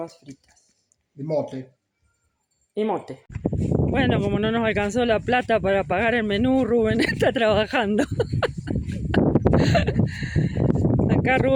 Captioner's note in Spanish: risas